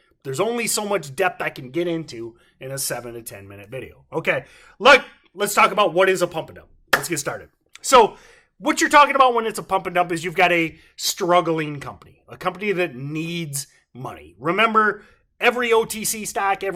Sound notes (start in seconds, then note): 6.9 claps